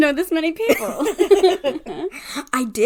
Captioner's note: laughs